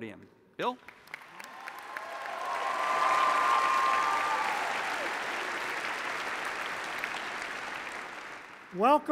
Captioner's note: applause